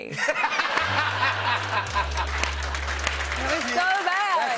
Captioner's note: laughter